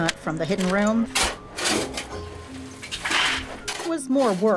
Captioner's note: rocks tumbling